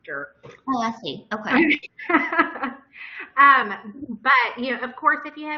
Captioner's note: laughter